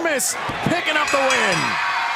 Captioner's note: bell ringing; cheers and applause